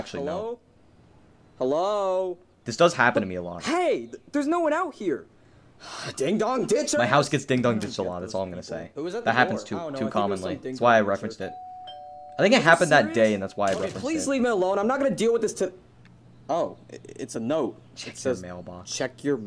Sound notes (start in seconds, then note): 5.8 sighs; 11.4 door bell ringing